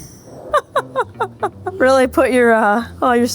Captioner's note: person laughing